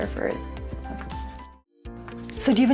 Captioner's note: pencil scratching